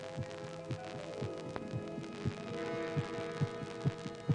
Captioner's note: heart beating rapidly